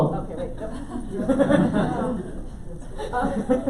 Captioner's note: laughing